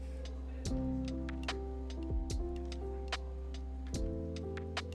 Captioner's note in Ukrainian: шепоче